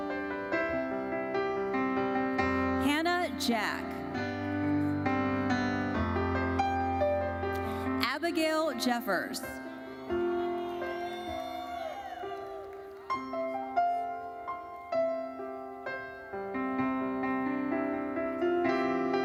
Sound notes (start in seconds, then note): 0.1 gentle uplifting music continues; 4.2 gentle uplifting music continues; 9.6 audience cheering; 12.2 gentle uplifting music continues